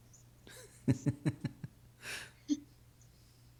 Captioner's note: laughing